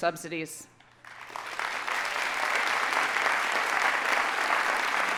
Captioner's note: audience applauding